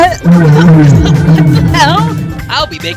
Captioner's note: cough